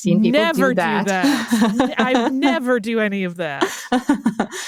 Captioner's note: laughing